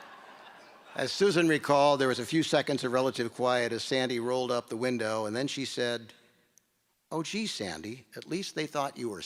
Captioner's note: laughter